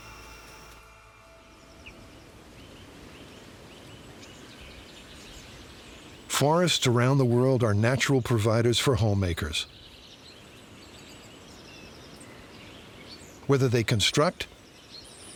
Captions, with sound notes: [birds twittering] Forests around the world are natural providers for home makers, whether they construct,